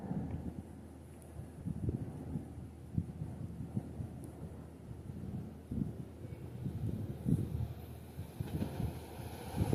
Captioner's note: short Wind Blowing